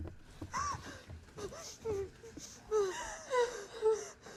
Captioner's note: Maria sobbing